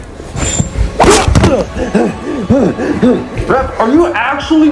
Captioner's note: exclaims; breathing in pain